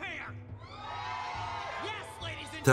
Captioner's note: cheers